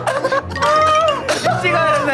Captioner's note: Tertawa keras sampai hampir menangis